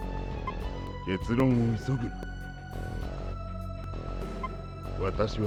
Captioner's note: geese